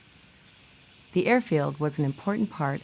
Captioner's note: bird whistles